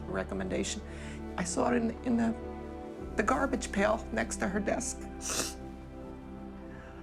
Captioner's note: sniffs